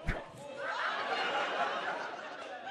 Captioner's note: wire whips; audience laughs